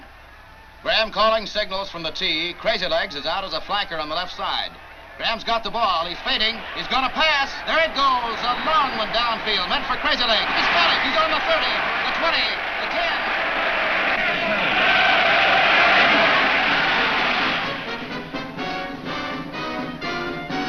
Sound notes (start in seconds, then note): 13.7 crowd cheers; 17.6 upbeat music